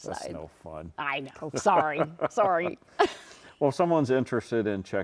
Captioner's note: laughs